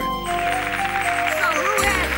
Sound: applause

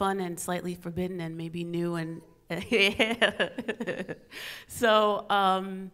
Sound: laughs

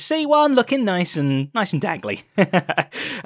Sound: chuckles

